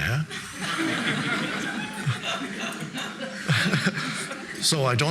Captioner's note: audience laughing